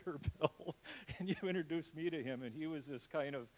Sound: laughs

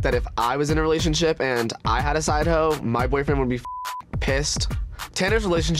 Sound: beep

